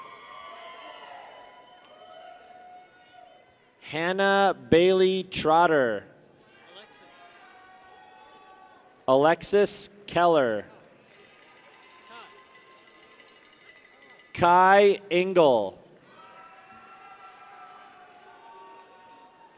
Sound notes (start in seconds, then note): 0.0 people cheer; 6.5 people cheer; 11.2 bell rattling; 16.0 people cheer